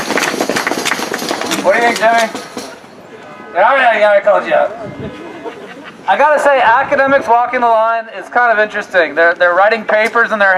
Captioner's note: applause